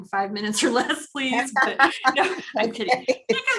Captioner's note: both laugh